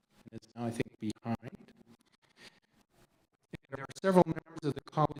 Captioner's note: audio cuts out